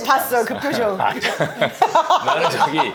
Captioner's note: chuckles